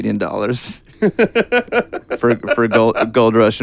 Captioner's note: laughing